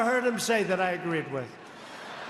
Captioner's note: laughter